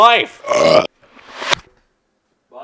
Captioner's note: reversed burp; reversed butter box throwing sounds